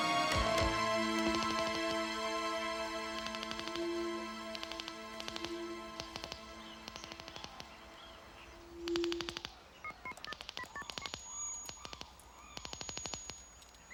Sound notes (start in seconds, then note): 9.3 phone beeping